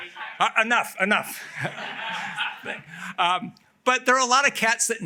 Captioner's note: laughter